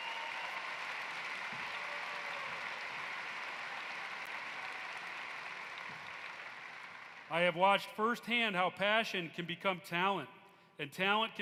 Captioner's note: applause